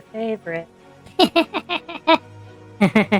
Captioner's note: Oscar and Olivia Laugh